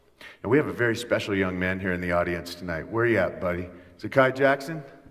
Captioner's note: none